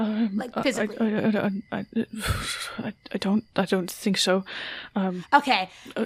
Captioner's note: stammers